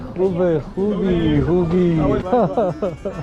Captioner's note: in Persian